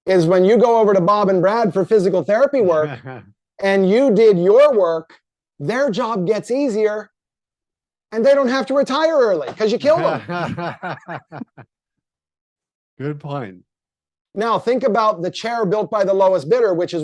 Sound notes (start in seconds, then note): 2.6 chuckles; 9.5 laughing